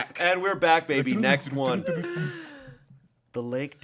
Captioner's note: humming